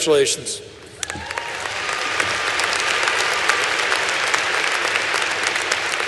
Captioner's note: applause